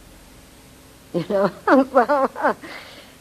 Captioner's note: laughing